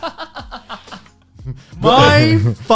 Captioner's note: laughing